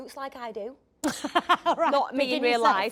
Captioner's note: Jodie laughs